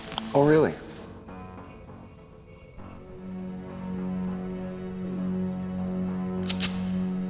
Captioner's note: suspenseful music continues; gun firing